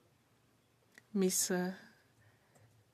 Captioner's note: speaking French